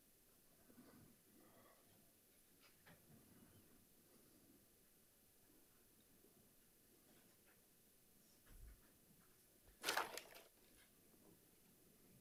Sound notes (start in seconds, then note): none